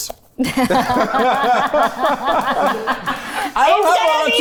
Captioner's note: everyone laughs